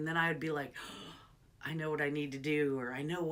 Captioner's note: gasps